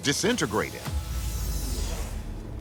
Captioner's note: transition whooshing